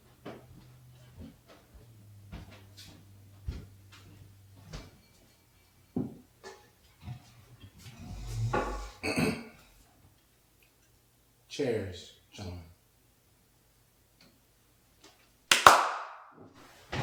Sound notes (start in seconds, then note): 8.4 Gerry clears throat; 15.5 Gerry claps hands